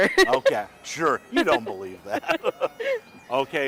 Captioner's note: laughing; both laughing